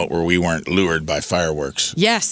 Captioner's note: none